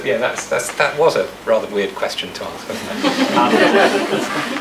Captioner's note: audience laughs